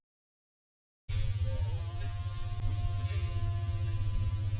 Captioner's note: drone buzzing